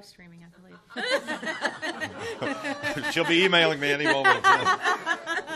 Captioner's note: chuckles